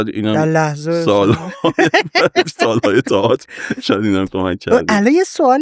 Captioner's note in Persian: خنده